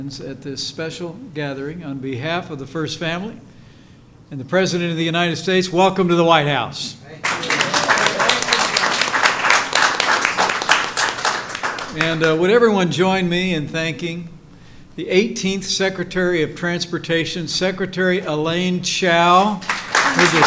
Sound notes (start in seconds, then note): 7.2 applause